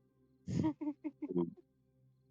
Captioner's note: laughs